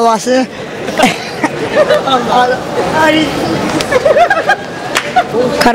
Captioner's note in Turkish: Gülme sesi